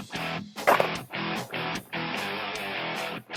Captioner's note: gunshot